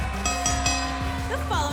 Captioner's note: bell ringing